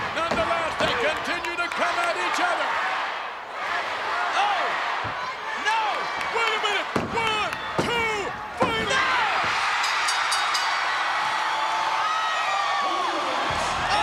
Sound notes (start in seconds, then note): 9.8 bell dinging; 10.9 crowd cheering